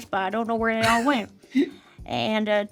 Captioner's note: Richard chuckles